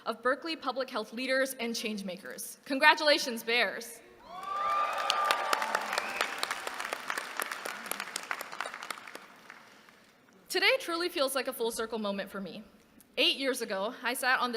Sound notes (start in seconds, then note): 4.3 applause